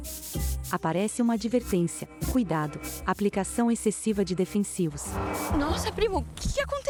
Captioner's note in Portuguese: Alarme